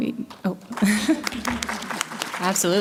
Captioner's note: applause